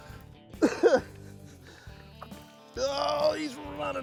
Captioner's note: coughs